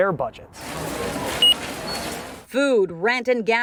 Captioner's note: machine beeping